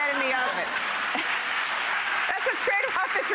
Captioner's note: audience clapping